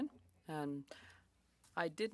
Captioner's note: speaking French